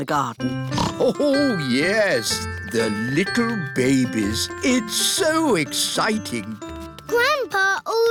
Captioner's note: snorts